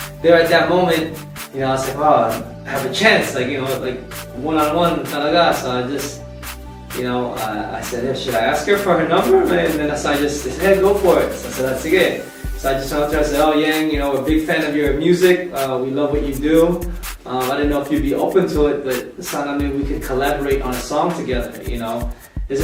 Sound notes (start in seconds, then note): none